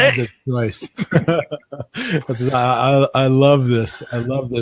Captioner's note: laughing